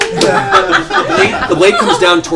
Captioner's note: laughter